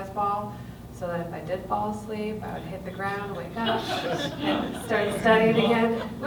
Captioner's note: laughter